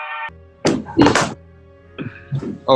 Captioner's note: clatter